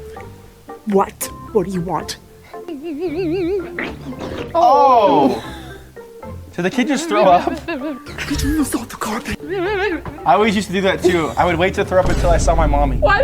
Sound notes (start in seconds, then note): 4.5 exclaiming